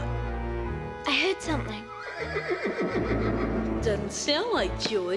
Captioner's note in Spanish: relincho del caballo